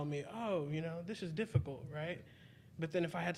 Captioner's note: none